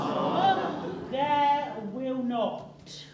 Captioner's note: groans